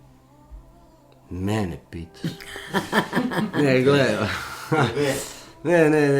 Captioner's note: laughter